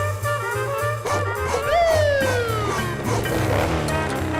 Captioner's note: police siren